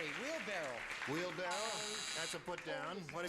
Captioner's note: buzzer sounds